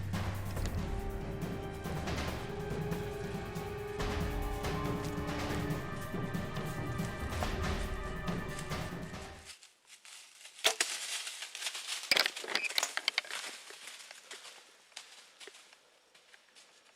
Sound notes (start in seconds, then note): 10.7 arrow striking; 12.8 leaves crunching